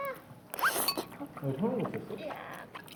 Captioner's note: slurp